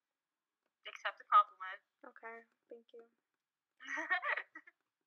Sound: laughs

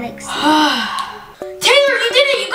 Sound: sighs

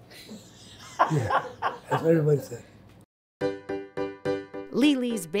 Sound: laughs

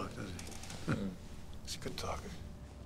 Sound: chuckles

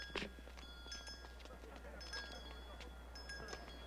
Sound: bell ringing and people chattering

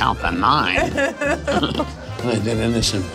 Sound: laughing

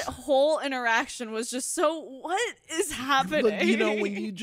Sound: giggle

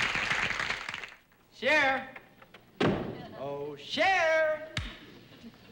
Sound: door closes

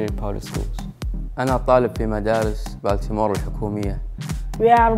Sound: speaking foreign language

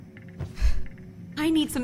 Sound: sighs

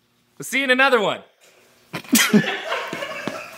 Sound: laughter

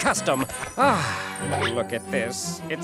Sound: sighing

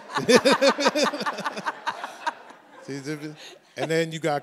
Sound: everyone laughs

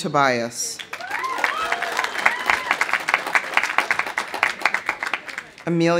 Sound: audience applauding; audience cheering

